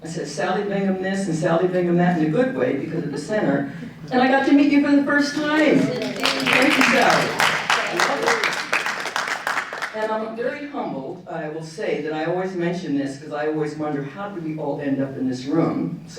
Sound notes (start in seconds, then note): 5.3 audience applauding